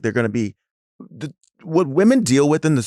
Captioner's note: stammers